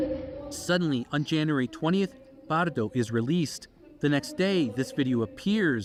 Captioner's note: speaking alternate language